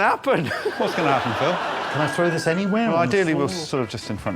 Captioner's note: laughs